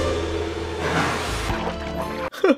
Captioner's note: splash!